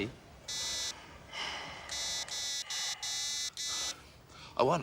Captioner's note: beeping continuously